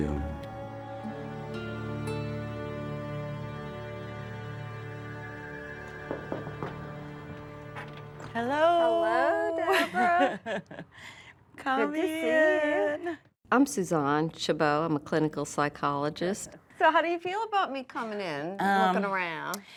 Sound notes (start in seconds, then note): 0.2 somber music; 9.6 laughs